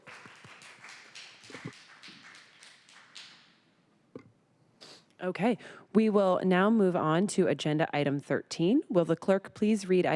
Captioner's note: applause